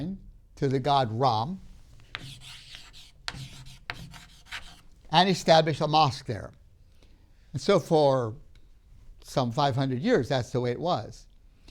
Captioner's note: marker writing